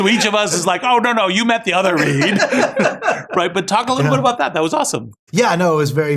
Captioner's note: laugh